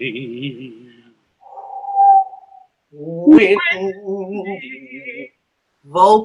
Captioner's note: makes sound of wind